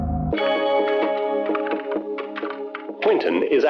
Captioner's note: keys typing